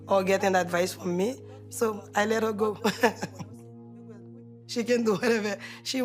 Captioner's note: chuckling